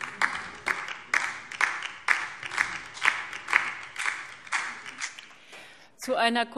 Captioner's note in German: Beifall DIE LINKE